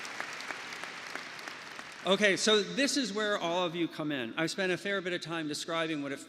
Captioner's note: applause